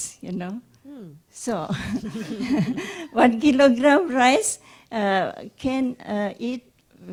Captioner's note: laughs